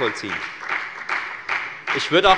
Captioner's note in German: Beifall bei der FDP